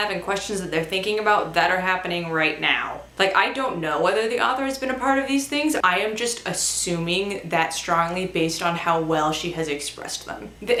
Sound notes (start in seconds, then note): none